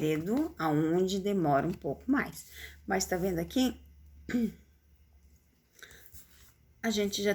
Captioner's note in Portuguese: limpando a garganta